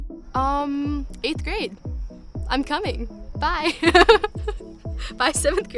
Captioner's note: laughs